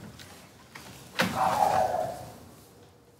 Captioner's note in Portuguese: cachorro latindo ao fundo